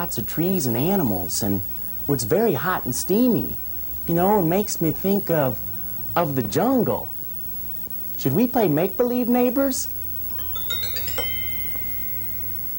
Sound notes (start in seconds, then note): 10.3 chime